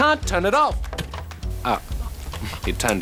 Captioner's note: tv clicks off